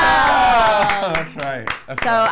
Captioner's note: clapping